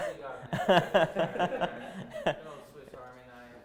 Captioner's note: chuckling